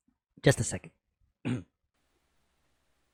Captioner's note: clears throat